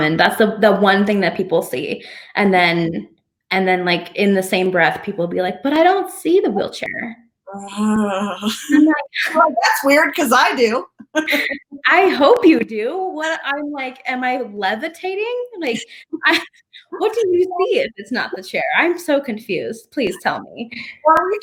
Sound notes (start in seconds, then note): 7.5 audio distorting; 10.9 laughs; 15.6 audio distorting